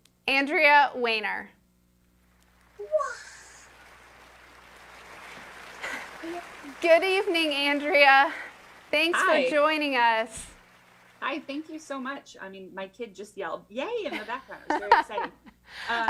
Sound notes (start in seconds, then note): 3.0 applause